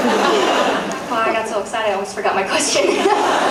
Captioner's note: laughs; laughs